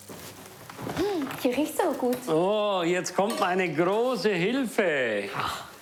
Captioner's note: speaking foreign language